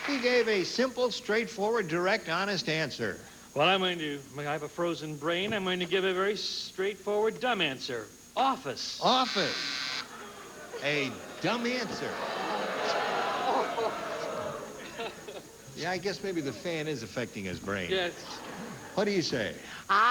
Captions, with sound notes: HE GAVE A SIMPLE, STRAIGHTFORWARD, DIRECT, HONEST ANSWER. WELL, I'M GOING TO-- I MEAN, I HAVE A FROZEN BRAIN. I'M GOING TO GIVE A VERY STRAIGHTFORWARD, DUMB ANSWER--OFFICE. OFFICE. A DUMB ANSWER. [AUDIENCE BOOING] YEAH, I GUESS MAYBE THE FAN IS AFFECTING HIS BRAIN. YES. WHAT DO YOU SAY?